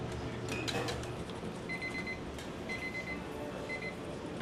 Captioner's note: timer beeping